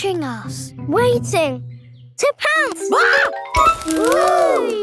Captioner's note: screams